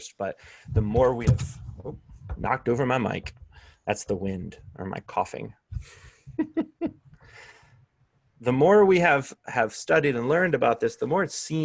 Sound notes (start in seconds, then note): 6.3 laughter